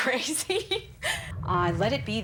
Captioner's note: laughs